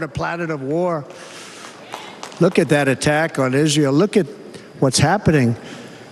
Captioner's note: applause